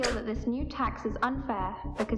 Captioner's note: swoosh